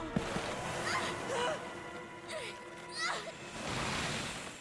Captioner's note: both gasp; both grunting